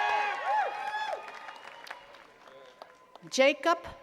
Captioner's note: attendees cheering and clapping